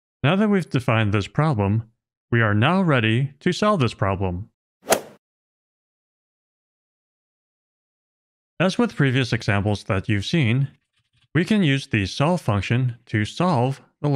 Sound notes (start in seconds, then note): 4.9 golf ball hit sound effect